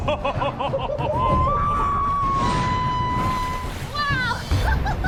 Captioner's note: laughing; screaming; water splashes; laughing and whooping